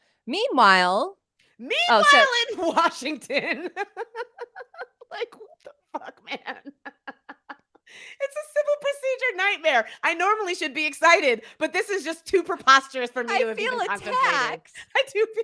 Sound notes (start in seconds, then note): 4.0 laughs; 7.5 laughs